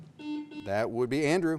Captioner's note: buzzer beeps